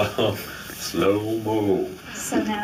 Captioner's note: slow voice